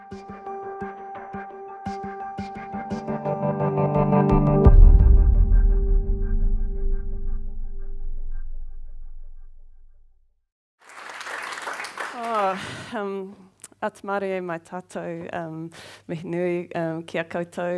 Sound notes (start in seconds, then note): 10.8 audience applauds